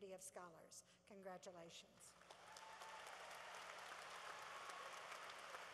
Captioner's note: cheering